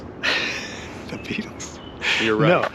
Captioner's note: laughs